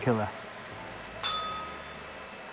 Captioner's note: bell rings